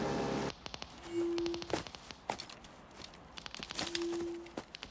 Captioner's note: detectors clicking